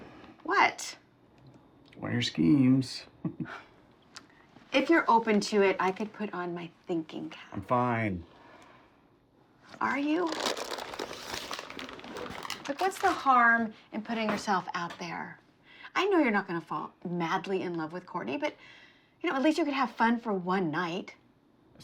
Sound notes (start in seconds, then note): 3.2 Tom laughs; 9.7 plastic wrapping